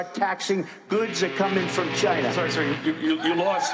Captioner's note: horn blaring